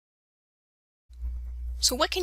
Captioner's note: silence